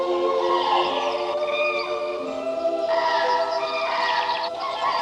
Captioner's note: gobble